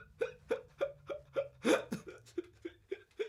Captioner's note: crying